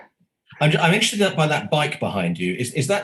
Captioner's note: murmurs